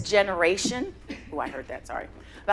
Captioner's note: microphone feedback